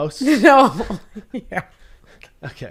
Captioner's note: laughs